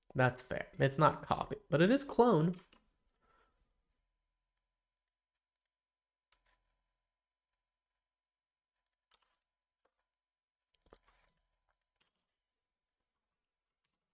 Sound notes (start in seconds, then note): 2.6 silence